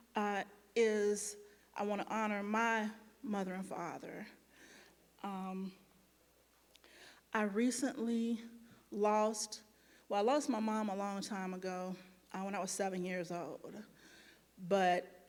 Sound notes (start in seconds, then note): none